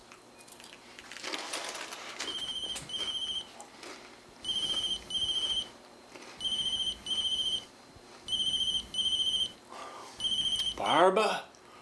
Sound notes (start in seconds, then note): 2.2 phone ringing